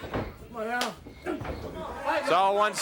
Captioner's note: hands thudding